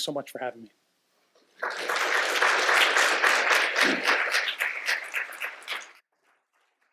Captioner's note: applause